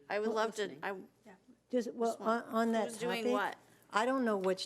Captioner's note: members chattering